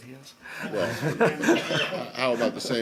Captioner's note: laughter